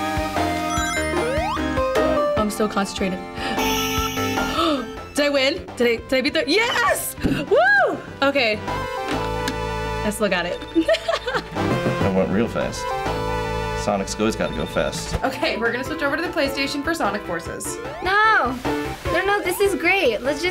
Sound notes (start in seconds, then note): 4.5 gasps; 10.8 laughs